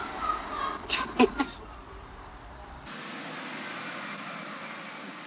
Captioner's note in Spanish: Jas se ríe